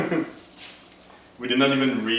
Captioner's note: laughing